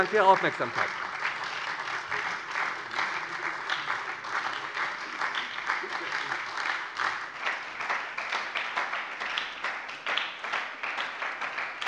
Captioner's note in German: Beifall bei der SPD